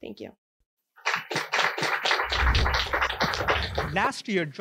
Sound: clapping

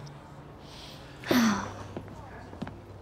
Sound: sigh

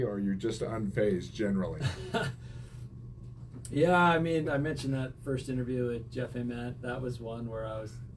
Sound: chuckles

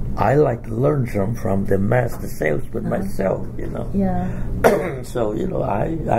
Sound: coughs

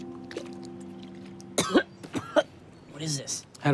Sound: coughing

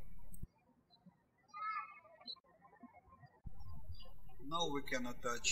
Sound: birds chirping

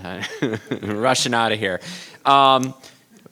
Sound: chuckles

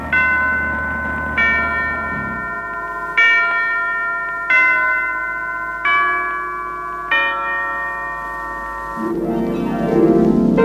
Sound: sound of big ben

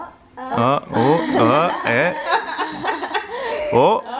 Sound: laughs

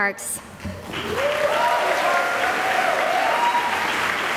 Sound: applause

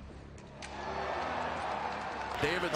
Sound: crowd cheers

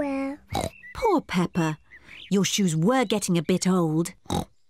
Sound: oinks

